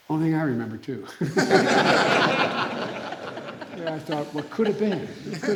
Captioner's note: laughter